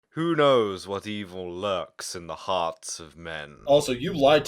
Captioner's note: doing 'The Shadow' voice